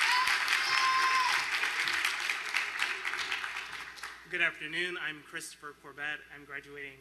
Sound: applause

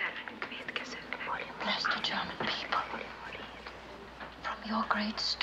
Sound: all whisper in prayer

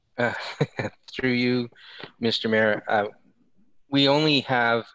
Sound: laughs

